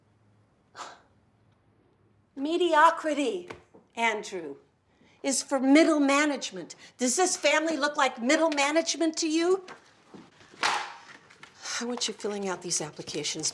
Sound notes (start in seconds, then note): 0.2 scoffs; 10.4 paper thwacking on counter; 11.4 sighs